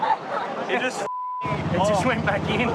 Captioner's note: beeps